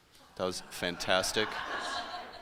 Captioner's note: laughter